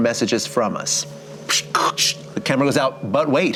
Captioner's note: series of squeaks and static